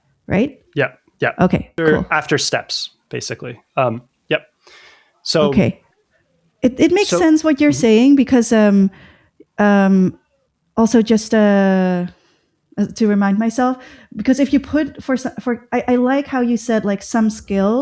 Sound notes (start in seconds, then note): 11.2 uh